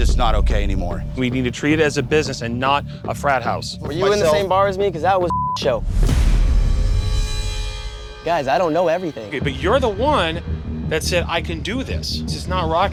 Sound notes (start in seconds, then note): 5.2 beep